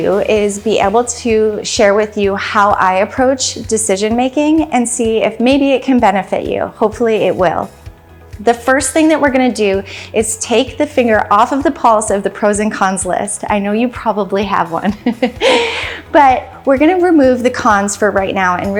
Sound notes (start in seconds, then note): 14.8 laughs